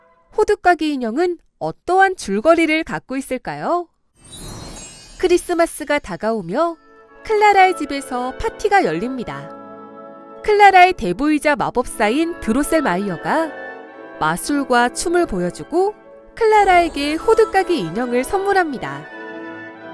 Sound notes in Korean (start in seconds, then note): 4.2 반짝이는 효과음; 6.9 부드러운 음악